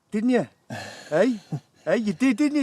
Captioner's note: Kevin chuckles